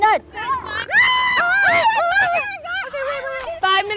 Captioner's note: screams